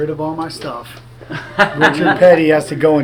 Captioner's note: man laughing